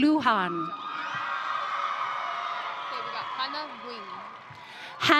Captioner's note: audience cheering